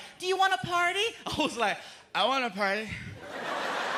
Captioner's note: slurring